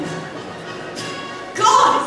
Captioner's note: ianthe spits drink